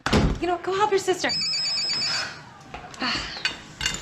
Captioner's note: door banging; phone ringing